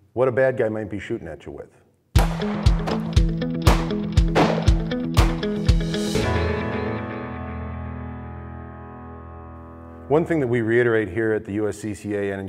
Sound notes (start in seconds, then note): 2.3 gunshots firing; 6.0 upbeat music